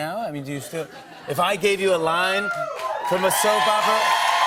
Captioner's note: cheers and applause